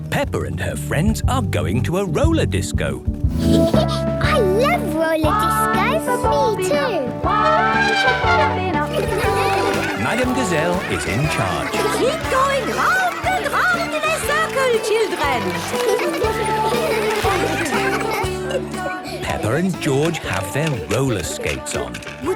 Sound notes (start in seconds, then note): 3.4 Peppa laughing; 6.9 trumpeting; 15.6 laughter; 18.3 giggling